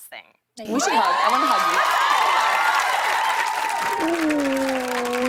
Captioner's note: cheers and applause